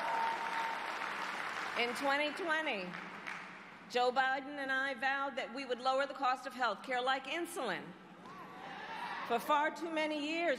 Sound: cheers and applause

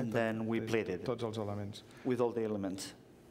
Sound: speaking catalan

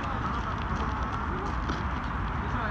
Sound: running

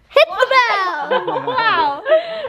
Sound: everyone laughing

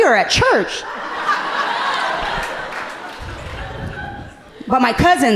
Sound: audience laughing amusingly

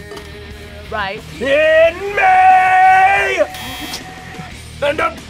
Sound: buzzer

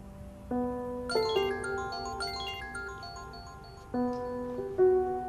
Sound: mobile ringing

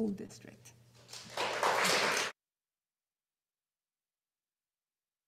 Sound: audience applauding

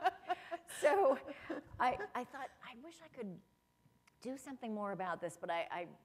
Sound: laughter

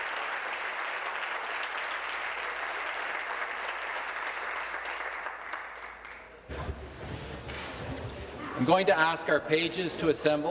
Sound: applause

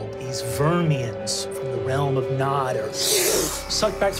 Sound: sucking

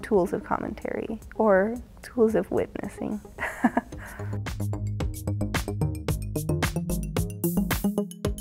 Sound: chuckles

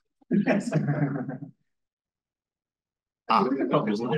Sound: students laughing

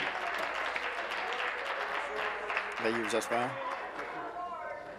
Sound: applause

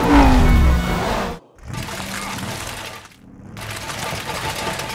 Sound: rattling

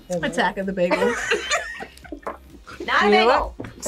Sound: both laugh

